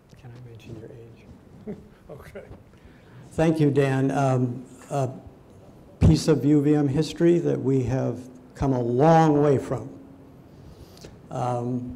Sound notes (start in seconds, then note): 1.5 chuckles